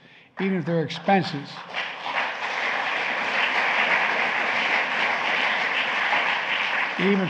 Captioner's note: applause